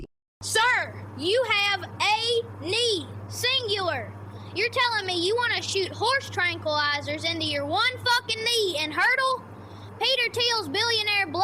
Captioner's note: shouts